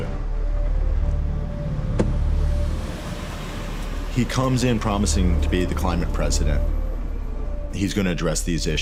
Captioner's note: car door closes